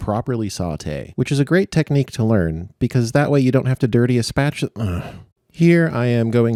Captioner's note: sigh